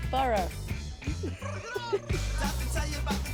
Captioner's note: giggling